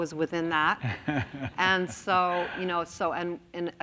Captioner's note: laughs